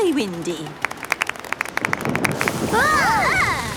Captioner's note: exclamations; thunder